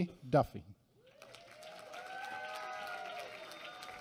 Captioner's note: applause